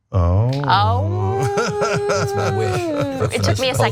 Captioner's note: laugh